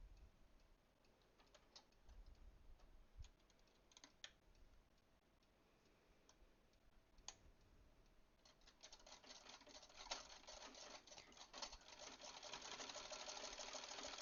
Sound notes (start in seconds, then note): 8.6 clicky clacky sewing machine sounds